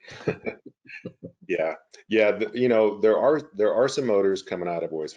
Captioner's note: laughs